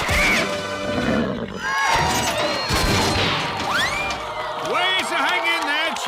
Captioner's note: clanking; nickers; cheering